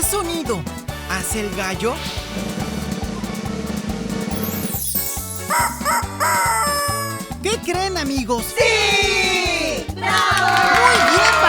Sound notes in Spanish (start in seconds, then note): 2.2 Sonido de redoblante; 5.4 Sonido de gallo